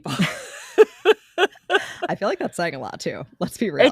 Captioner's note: laughs